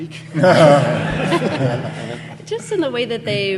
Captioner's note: audience laughing